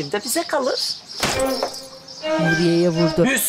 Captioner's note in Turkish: Vurma sesi